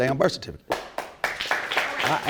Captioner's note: audience applauding